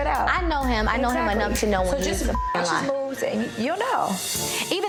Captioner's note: beep